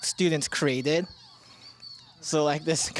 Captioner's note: high-pitched beeping